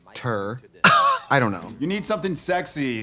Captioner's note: Katya laughs